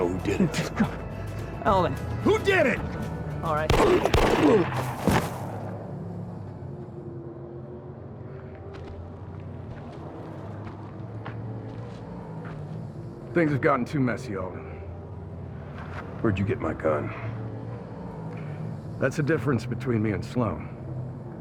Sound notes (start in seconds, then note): 3.7 GUNSHOTS,</i> <i> SLOAN GROANS; 9.3 footsteps